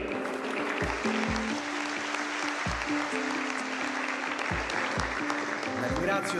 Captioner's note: applause